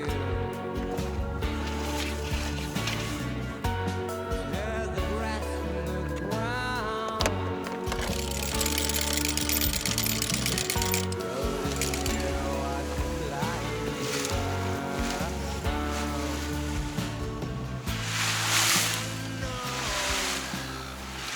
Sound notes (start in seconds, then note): 7.6 crank winding; 18.4 waves crashing